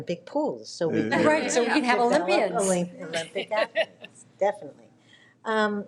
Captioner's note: laughs